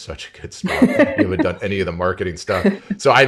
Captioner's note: laughs